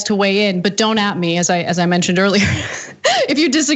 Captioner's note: laugh